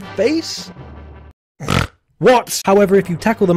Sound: snort

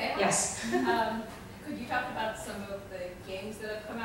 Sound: voiceover

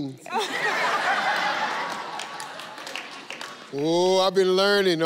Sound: audience laughing

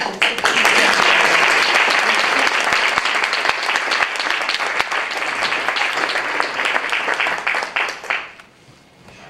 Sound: applause

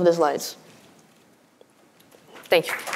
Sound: applause

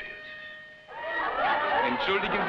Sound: partygoers conversing loudly; man speaking foreign language

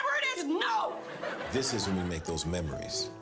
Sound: audience laughter

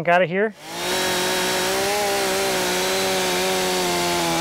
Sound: saw buzzes

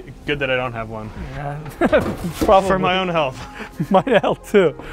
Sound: laughs

